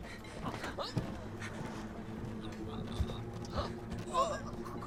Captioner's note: soldier gasping